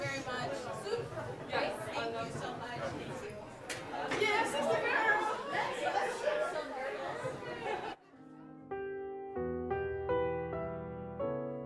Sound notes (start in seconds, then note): 0.0 group chattering; 8.6 upbeat music